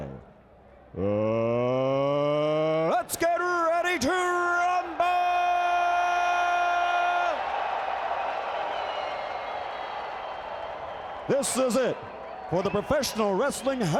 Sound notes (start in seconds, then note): 8.8 crowd cheering